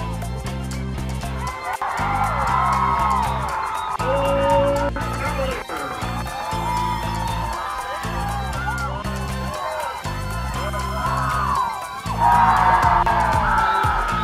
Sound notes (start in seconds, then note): 2.2 cheering; 12.1 cheering